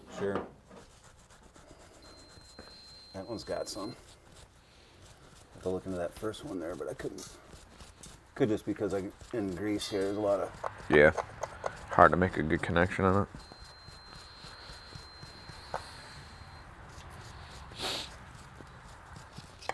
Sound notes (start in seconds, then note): 1.9 machine beeps; 14.0 bristles scrape; 14.0 machine beeps